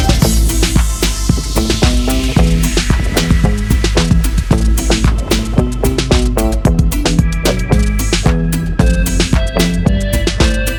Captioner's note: clap